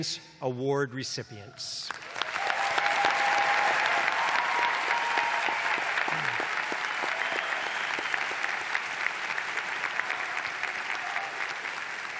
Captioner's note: applause